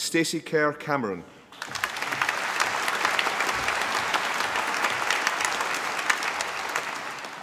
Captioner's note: applause